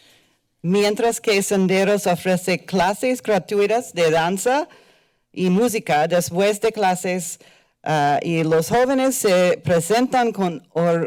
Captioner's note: foreign language